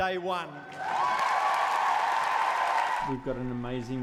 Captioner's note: audience cheering exuberantly